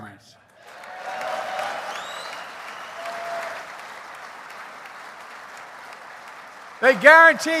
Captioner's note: applause